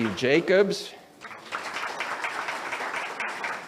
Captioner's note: audience applauds